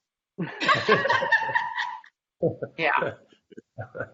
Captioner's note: laughing